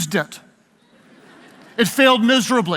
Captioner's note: audience laughs